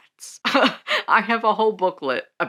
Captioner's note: laughing